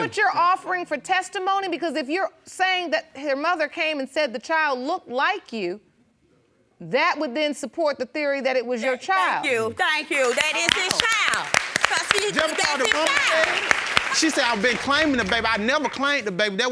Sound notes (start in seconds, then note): 12.6 audience applauds